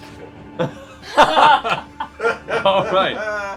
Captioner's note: laughter